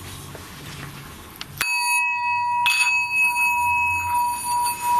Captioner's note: bowl ringing